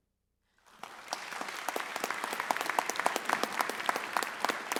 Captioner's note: audience applauds